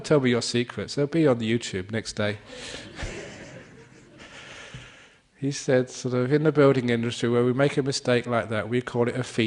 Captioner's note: laughter